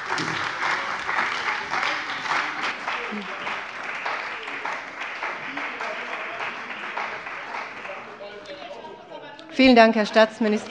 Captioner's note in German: Beifall bei der CDU und dem BÜNDNIS 90/DIE GRÜNEN